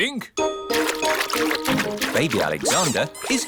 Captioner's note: splashing